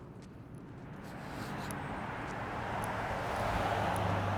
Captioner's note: car whooshes